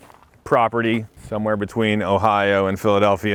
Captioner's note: footsteps crunching